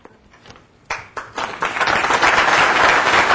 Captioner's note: applause